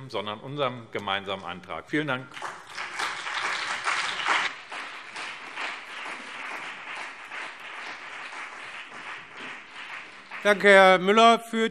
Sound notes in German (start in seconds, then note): 2.3 Beifall BÜNDNIS 90/DIE GRÜNEN und CDU